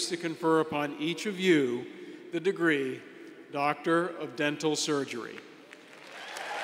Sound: applause

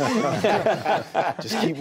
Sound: laughing

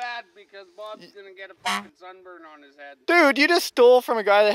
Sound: honk

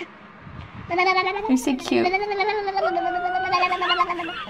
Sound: baby babbling rapidly

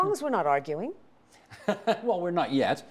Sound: chuckling

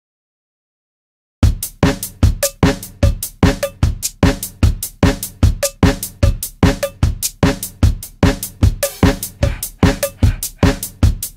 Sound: sound of heartbeat

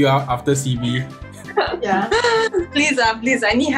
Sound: laughs

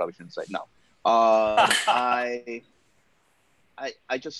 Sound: laughs

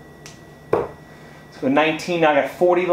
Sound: thuds

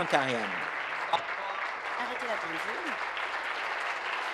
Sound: applause

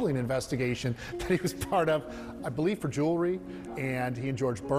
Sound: laughing

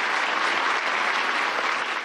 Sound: applause

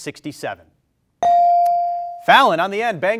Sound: bell rings

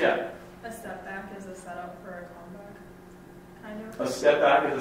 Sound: voiceover

